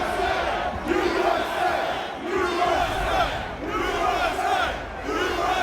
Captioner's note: crowd